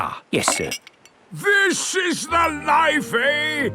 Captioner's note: none